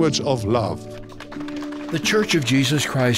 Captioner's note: audience applauding